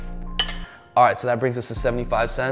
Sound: clinking

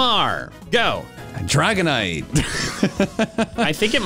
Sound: laugh

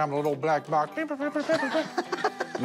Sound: laughter

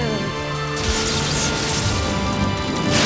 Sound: lightning zapping; wind blowing

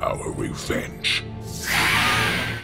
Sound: screeching

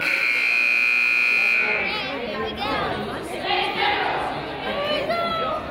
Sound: buzzer honks

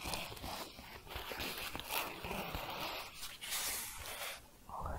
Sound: scratching

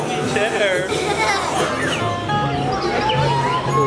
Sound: laughing

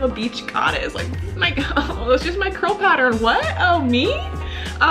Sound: laughs

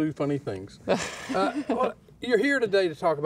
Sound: laughs

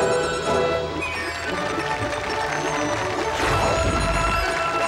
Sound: audience applauding

